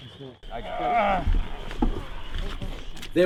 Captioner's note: grunting